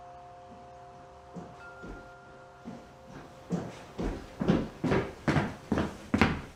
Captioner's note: footsteps approaching